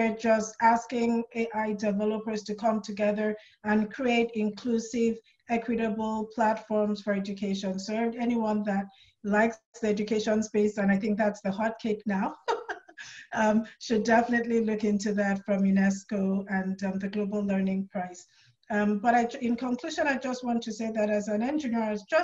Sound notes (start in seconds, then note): 12.3 laughs